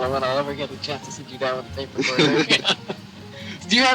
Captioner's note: laughs